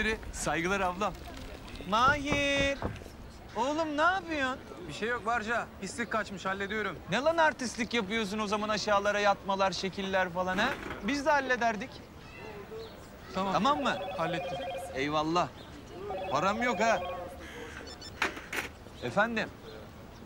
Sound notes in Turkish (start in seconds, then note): 13.5 Telefon zili sesi